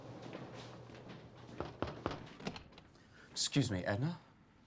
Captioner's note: knocks on door